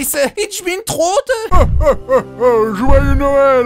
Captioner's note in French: Voix de Titan